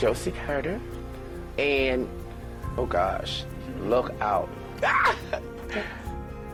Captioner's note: shrieks warmly